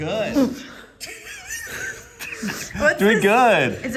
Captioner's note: laughing